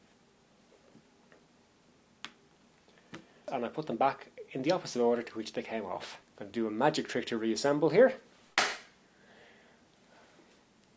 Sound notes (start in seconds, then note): 8.6 claps